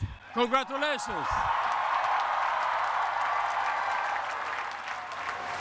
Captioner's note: cheering and applause